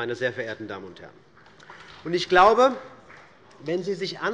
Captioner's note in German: Beifall bei Abgeordneten des BÜNDNISSES 90/DIE GRÜNEN